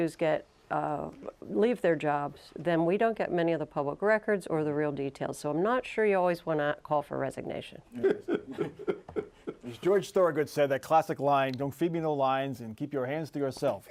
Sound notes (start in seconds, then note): 4.6 laughter